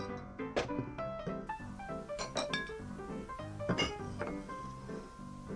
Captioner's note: upbeat saloon music; glasses clinking